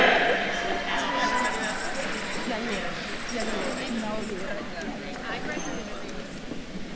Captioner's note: attendees cheering; attendees chattering